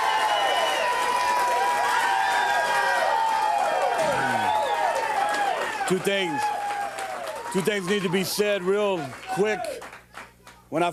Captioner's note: crowd cheering